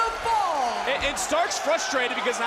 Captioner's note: crowd cheers